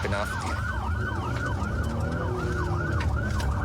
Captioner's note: engine guns